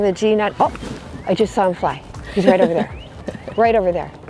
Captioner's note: laughs